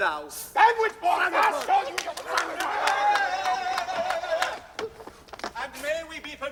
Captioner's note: noises of protest